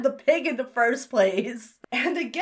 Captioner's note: laughs